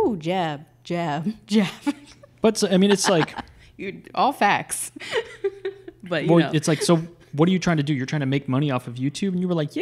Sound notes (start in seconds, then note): 2.7 laughs